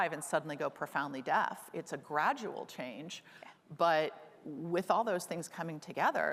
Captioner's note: none